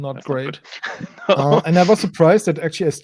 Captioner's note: uncomfortable laugh